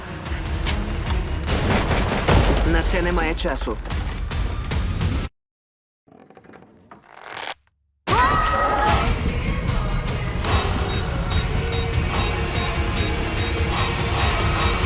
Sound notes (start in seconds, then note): 1.5 gunshots; 6.1 bridge creaking; 8.1 screams; 8.7 dramatic music continues; 12.1 device beeping